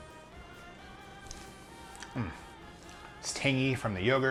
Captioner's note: lips smacking